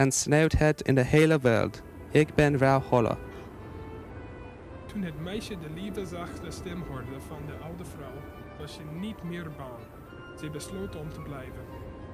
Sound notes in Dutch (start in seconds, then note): 4.4 Wind, Muziek